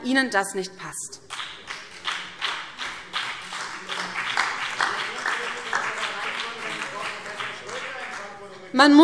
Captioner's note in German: Beifall BÜNDNIS 90/DIE GRÜNEN, CDU und DIE LINKE - Zurufe AfD